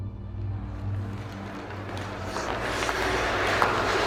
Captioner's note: people cheering